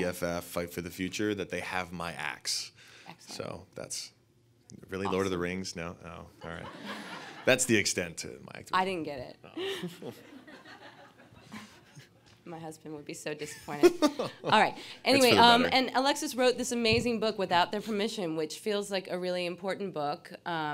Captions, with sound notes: EFF, Fight for the Future, that they have my ax. - Excellent. - So that's really Lord of the Rings, no, all right. (audience laughing) That's the extent of my activity. - I didn't get it. (audience laughing) My husband would be so disappointed. (Alexis laughing) All right, anyway. - That's for the better. - And Alexis wrote this amazing book, Without Their Permission, which feels like a really important book.